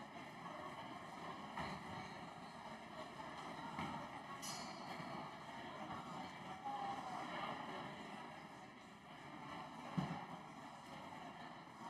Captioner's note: crowd Noise